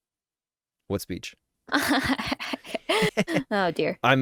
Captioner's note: awkward laughter